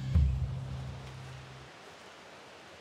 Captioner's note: water rushing